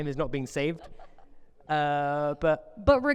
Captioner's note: laughing